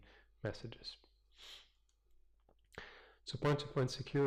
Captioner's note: pause